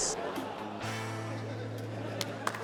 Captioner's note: laughter, applause